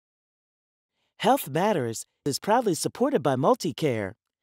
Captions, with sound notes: - [Voiceover] Health Matters is proudly supported by MultiCare.